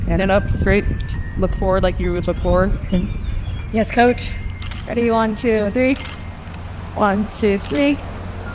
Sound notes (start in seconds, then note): 5.9 camera clicking